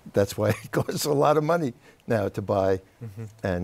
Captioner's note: laughter